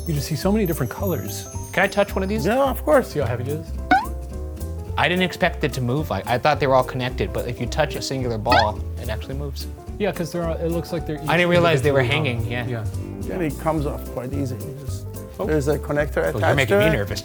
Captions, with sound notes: you just see so many different colors. - Can I touch one of these? - Yeah, of course. - See how heavy it is. (bounce effect blares) - I didn't expect it to move. Like I thought they were all connected. But if you touch a singular ball, it actually moves. - Yeah, 'cause they're all, it looks like they're each. - I didn't realize they were hanging, yeah. - And it comes off quite easy. Just there's a connector attached there.